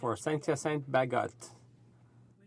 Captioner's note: speaking French